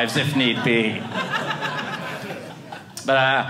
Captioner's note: audience laughing